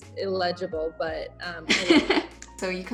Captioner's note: laughing